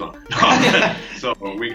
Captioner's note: laughing